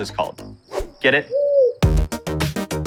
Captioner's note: owl cooing; lively music continues